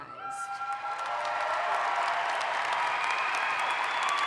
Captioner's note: audience applauds